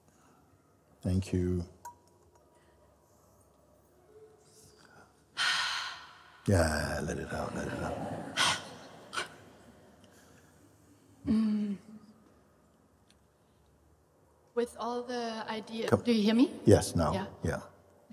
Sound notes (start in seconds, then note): 5.4 exhales sharply; 9.3 laughter